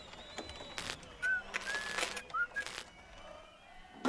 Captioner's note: Crujido